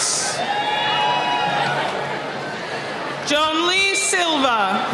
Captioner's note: cheering